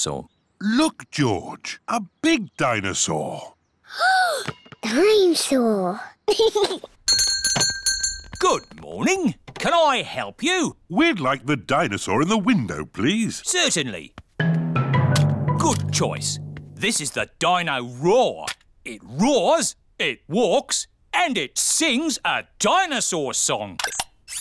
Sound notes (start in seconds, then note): 3.6 gasps; 6.3 giggles; 7.0 bell rings